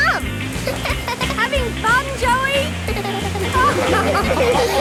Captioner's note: giggles; laughing